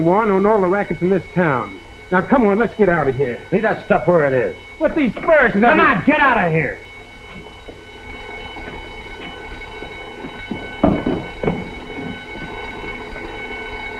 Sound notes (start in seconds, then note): 7.5 alarm ringing